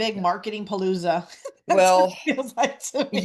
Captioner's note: laughs